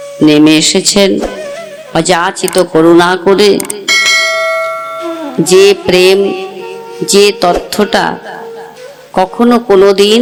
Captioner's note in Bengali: ঘণ্টা